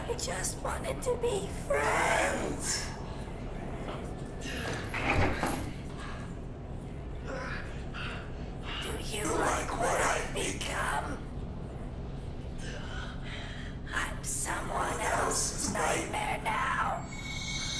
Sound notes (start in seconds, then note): 4.8 chain rattling; 7.2 Clint groaning softly